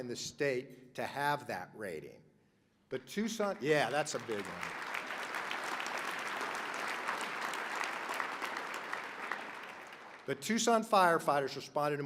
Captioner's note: applause